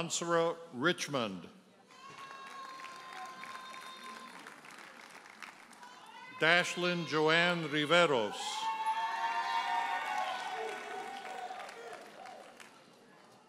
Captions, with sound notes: Michael Ansara Richmond. (audience cheers and applauds) Dashlyn Joann Riveros. (audience cheers and applauds)